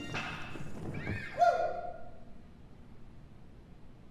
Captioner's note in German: woo!